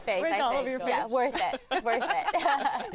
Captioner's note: laughter